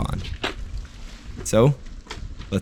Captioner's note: bicycle rattles